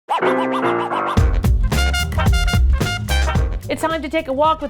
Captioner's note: record scratching; jazzy hip hop music